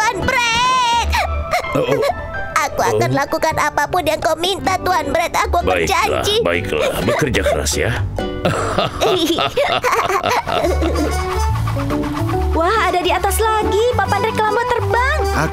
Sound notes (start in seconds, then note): 1.4 cries; 8.4 both laugh; 11.0 air whooshing